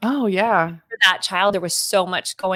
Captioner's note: speaking faintly